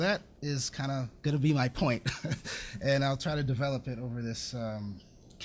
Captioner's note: laughs